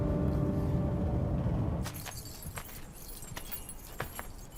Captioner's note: keys jingling